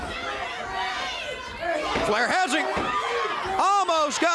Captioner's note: crowd chatter